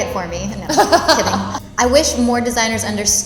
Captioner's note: laughing